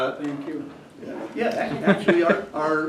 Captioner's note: laughter